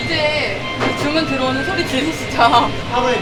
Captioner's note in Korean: 띠리리링